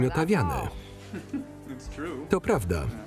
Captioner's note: laughs